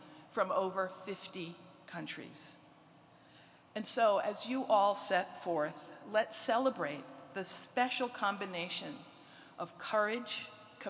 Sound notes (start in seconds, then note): none